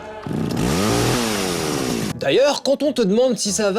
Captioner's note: chain saw